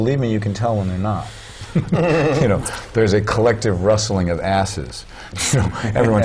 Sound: chuckle; chuckle

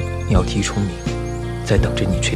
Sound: birds, and insects

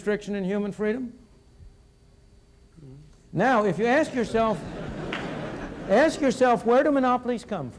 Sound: laughter in audience

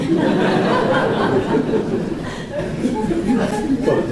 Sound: laughter

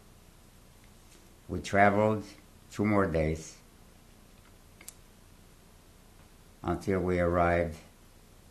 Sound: pauses for 3 seconds

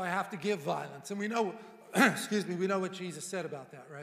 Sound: coughing

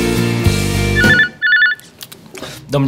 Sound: cellphone rings

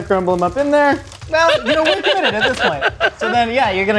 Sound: laughing

